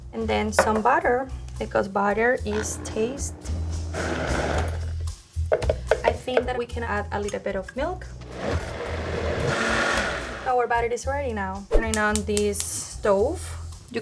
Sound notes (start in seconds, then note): 8.3 blender whirring